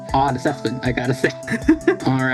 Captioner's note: Diamond-doubting noises